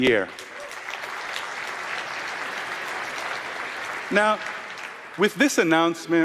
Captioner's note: applause